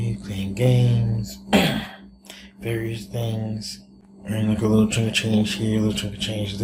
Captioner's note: coughs